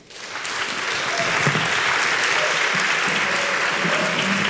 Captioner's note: congregation clapping